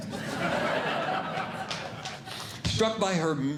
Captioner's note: audience Laughing